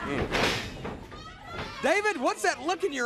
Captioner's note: crowd chatter